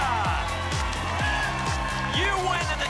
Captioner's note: applause and cheering